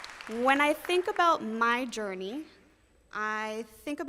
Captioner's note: applause